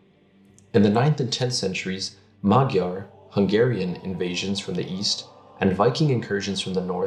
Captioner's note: Hungarian